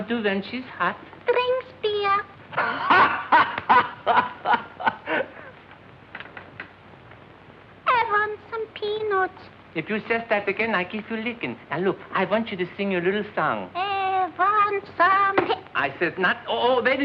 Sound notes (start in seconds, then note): 2.5 laughs; 12.8 singing